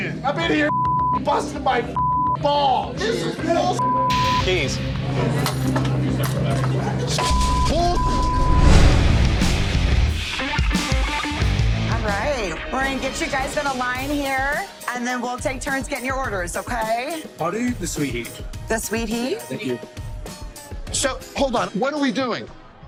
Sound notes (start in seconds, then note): 0.6 beep; 3.8 beep; 5.3 keys clattering; 7.2 beep; 9.2 rock music